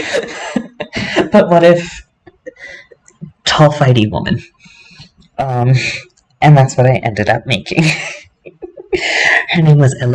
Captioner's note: laughter; laughter